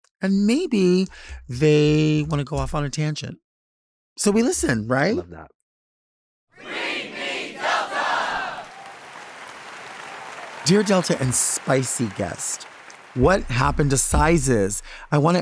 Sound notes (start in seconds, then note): 9.3 audience clapping